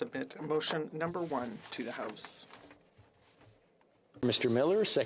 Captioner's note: speaking French